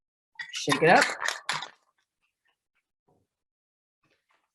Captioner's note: ice cubes jangle